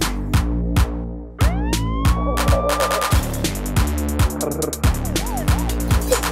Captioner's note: emergency sirens sounding; upbeat music